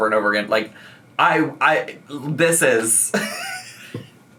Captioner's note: laughs